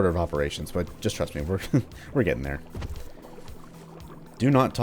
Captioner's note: chuckles